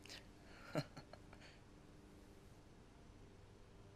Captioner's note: chuckles